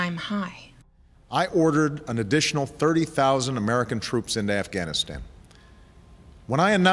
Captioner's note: Obama speaking